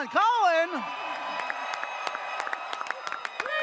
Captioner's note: audience cheers